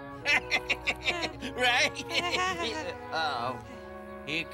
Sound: laughs

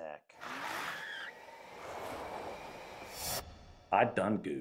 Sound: tires screeching

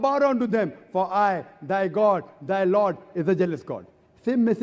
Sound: in Hebrew

